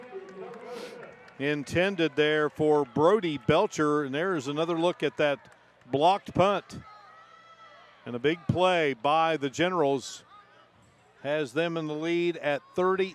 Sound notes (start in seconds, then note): 6.3 applause